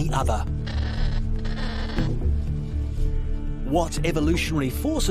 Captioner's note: kakapo cawing